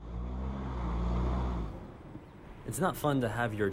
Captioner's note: background engine sound